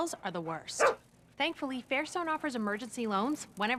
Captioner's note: bark